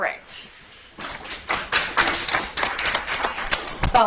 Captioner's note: audience applauds